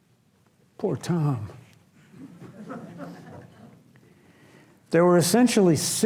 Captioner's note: audience laughs